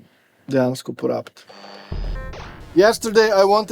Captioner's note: computer sound